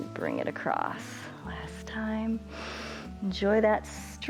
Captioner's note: inhales